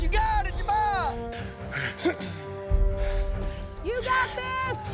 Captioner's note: grunting